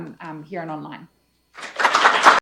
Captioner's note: applause